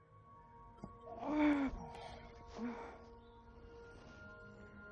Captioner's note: Andrea groans